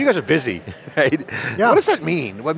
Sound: laughs

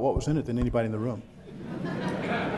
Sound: background chuckles

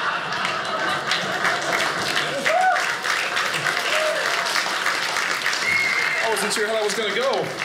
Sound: audience laughing; audience applauding

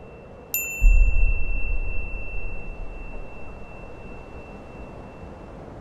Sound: beep; wind blowing; beep

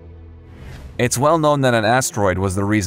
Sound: air whooshes

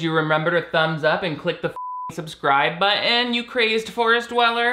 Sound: beep

